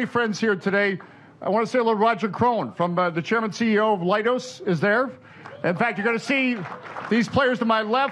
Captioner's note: applause